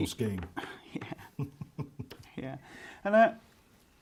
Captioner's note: laughs